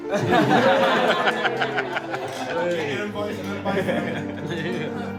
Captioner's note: cheering